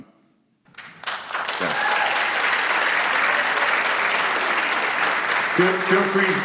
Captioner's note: applause